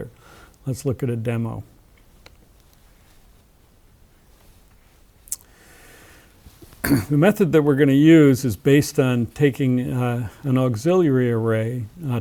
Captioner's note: cough